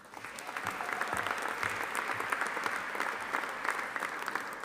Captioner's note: audience applauding